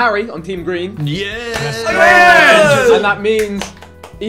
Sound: celebrating

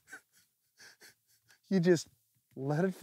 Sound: laughing

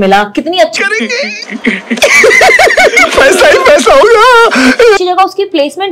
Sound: excited sounds

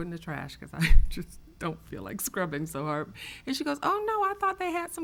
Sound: laughs

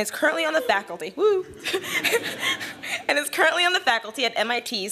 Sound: laughs

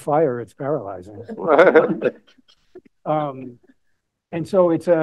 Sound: laughter

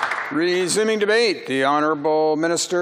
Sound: some Applause

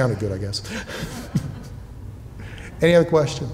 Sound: laughing

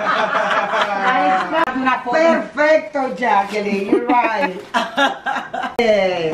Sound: laughing; speaking foreign language

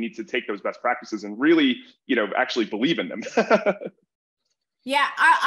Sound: laughs

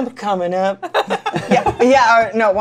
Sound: laughter

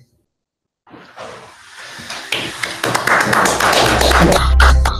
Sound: applause

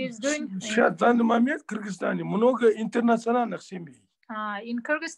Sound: in Russian

